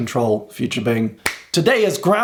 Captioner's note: claps